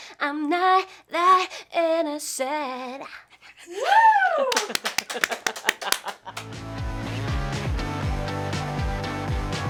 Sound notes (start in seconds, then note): 4.4 clapping and laughter; 6.3 upbeat music